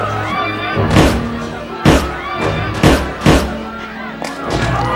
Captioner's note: gun banging